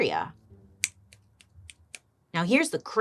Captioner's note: fingers snapping